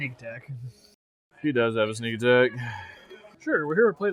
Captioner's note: sigh